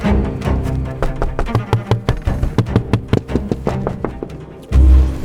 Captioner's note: knocking